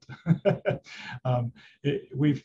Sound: laughing

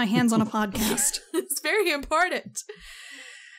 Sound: laughs

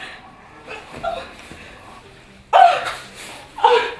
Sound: Elizabeth moans

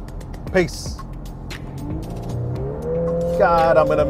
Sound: vehicle engine roaring

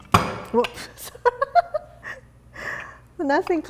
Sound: laughter

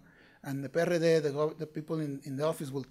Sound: speaking foreign language

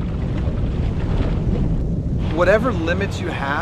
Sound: water splashing

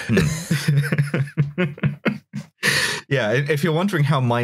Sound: laughter

